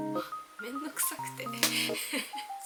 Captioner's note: laughs